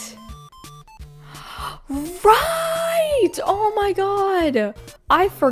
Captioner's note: gaspppp